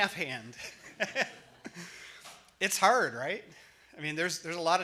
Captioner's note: laughs